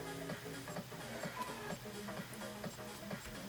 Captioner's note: sighs